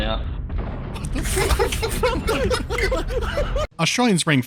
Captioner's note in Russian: безудержное хихикание